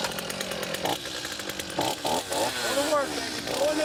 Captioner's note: revving